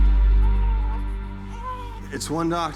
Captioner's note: Eva cooing